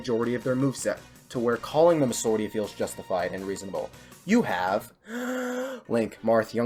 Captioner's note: breathes